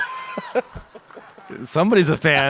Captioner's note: audience cheers